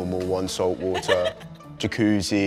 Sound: chuckles

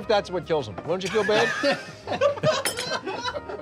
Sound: laughing

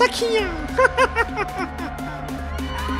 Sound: laughing

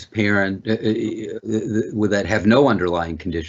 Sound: stuttering

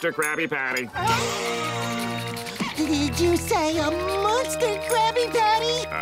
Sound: gasps

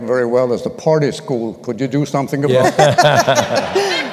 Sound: laughter

